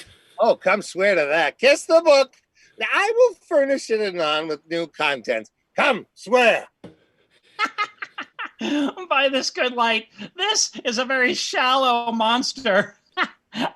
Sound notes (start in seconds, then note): 7.5 laughing